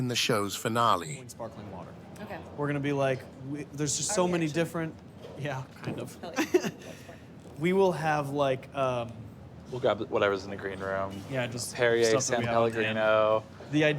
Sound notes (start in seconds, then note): 6.3 laughs